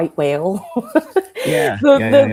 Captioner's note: laughs